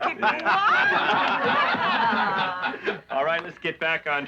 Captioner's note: laughing